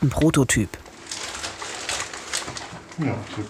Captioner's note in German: Spielfiguren rascheln